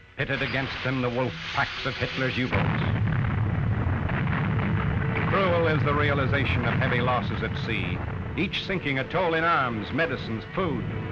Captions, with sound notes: Pitted against them, the wolf packs of Hitler's U-boats. (explosion) Cruel is the realization of heavy losses at sea, each sinking a toll in arms, medicines, food,